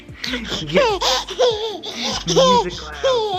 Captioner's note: baby laughs